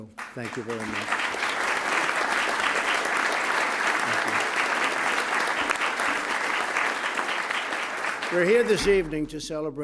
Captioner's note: applause